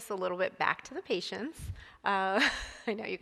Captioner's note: chuckles